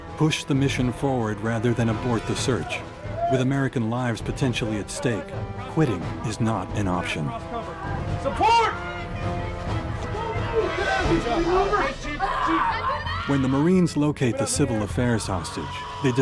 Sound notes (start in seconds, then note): 0.0 voiceover; 11.6 screaming; 13.5 voiceover